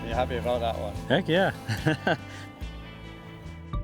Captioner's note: laughs